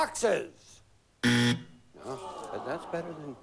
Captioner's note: buzz